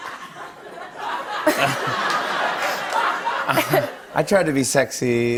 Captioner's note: laughter